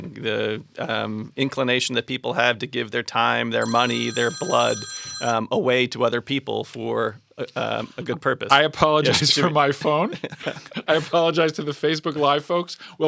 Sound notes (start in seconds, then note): 3.6 phone ringing